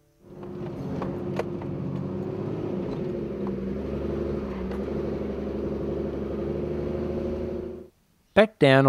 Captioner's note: vehicle sounds